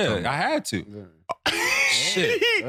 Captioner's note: laughing